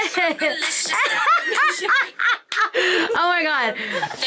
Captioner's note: Jasmine laughing; laughing